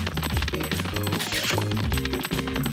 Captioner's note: smooches